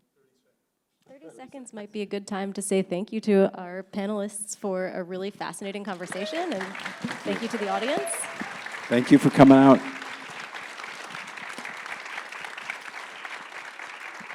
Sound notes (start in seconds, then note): 8.0 audience cheering; 10.6 audience clapping